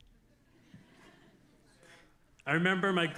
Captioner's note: audience laughing